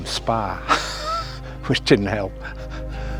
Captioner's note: laughs